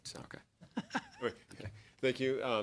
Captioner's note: laughter